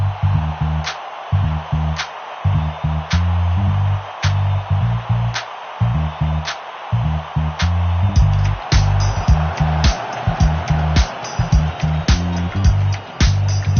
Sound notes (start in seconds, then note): 0.2 upbeat music playing; 7.8 crowd cheering